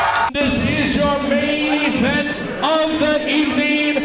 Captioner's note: fight & crowd noise